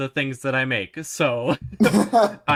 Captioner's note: laugh